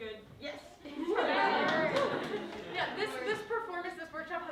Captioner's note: laughter